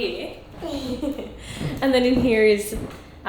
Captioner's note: laughing